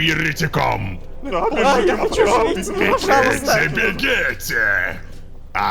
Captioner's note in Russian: Паника толпы